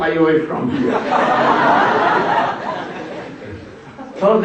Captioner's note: смех